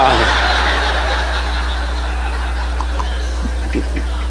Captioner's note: audience laughing